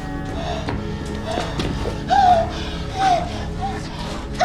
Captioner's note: gasping